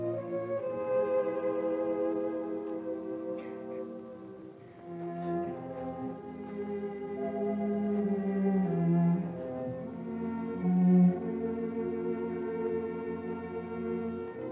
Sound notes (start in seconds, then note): 3.8 Pilar crying; 6.9 gentle somber music